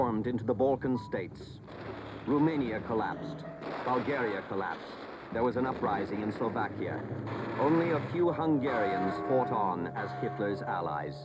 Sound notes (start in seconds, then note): 0.9 dramatic music; 5.4 cannons firing